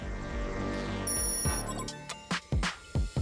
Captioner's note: digital beeping; upbeat percussion music